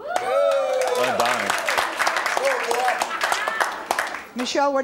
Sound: cheering

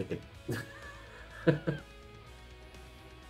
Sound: laughs

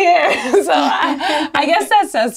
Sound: laughs

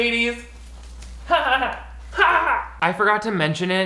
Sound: he fake laughs

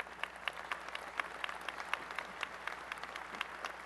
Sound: applause

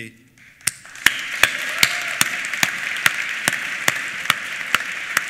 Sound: applause

